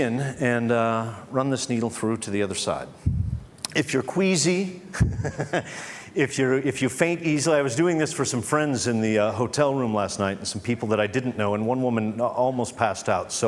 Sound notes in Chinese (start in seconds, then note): 4.9 笑聲; 4.9 Laughs